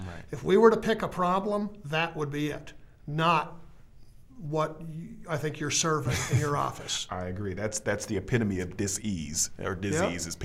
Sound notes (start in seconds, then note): 6.0 chuckling